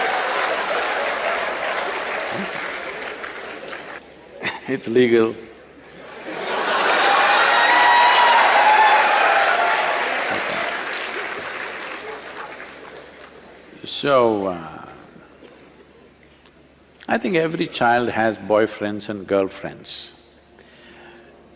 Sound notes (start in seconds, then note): 0.0 laughter/Applause; 0.8 laughs; 6.0 cheers/Laughter